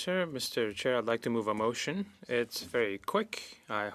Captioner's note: speaking French